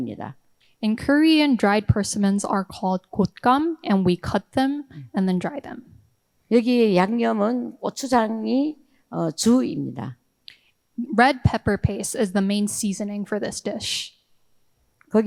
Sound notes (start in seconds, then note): 6.6 speaking in foreign language